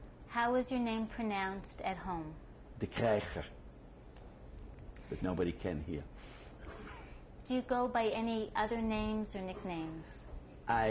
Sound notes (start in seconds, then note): 6.0 laughs